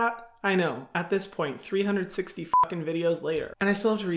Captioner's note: beep